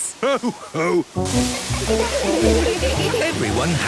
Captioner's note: laughter